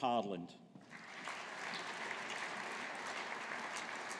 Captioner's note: audience applauding